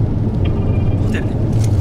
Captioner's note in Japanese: 呼び出し音